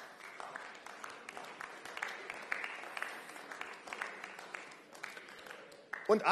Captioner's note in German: Beifall